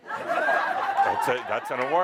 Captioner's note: laughter